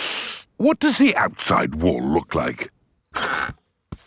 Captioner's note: inhales sharply